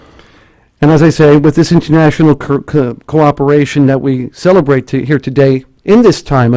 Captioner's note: stutters